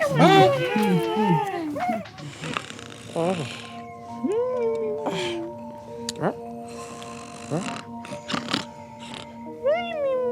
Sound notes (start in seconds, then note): 0.1 Cheers in Derp-lish; 2.9 Snoring, Derp-lish wimpering